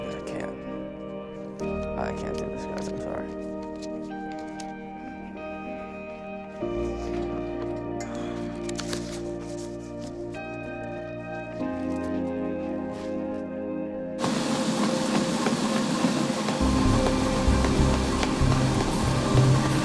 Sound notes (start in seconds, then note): 5.0 expressive guitar over dramatic electronic music; 13.6 treadmill whirring loudly over dramatic electronic music